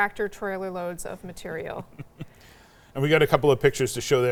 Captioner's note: chuckles